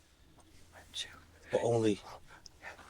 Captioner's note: whispers